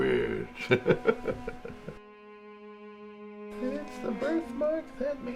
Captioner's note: laughs heartily